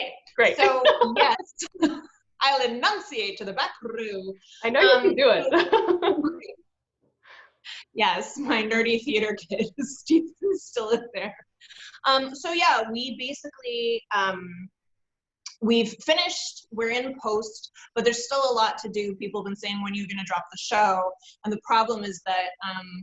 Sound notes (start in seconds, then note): 4.6 laughs